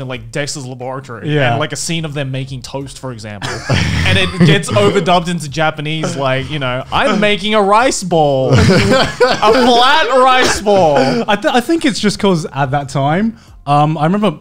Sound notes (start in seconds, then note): 3.4 laughing softly; 8.4 laughing loudly